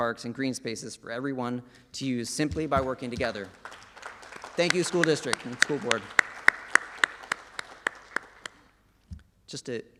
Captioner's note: applause